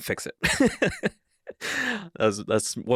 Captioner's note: laughing